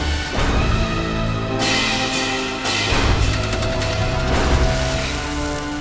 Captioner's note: clanging